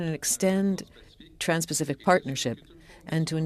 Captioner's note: speaking French